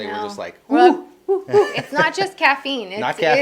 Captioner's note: laughing